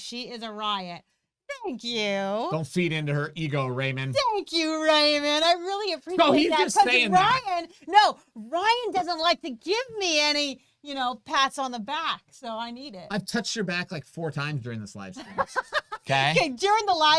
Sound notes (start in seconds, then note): 15.2 laughs